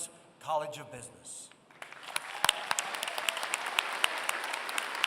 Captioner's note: applause